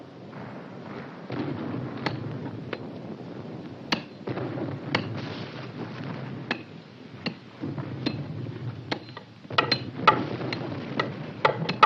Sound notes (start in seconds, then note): 3.9 chopping